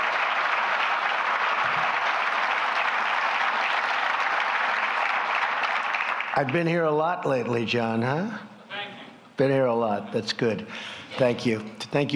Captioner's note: applause